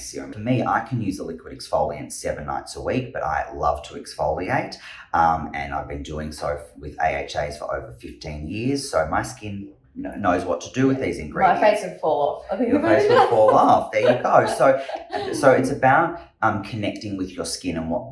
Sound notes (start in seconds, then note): 12.7 laughs